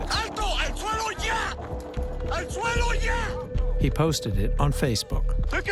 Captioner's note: in Spanish